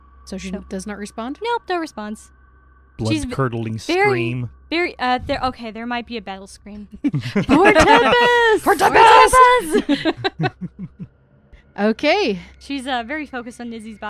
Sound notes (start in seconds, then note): 9.6 laughter